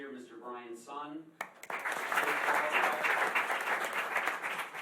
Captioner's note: applause